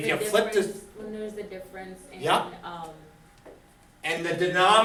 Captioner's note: voiceover